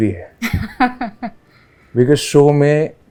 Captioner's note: laughs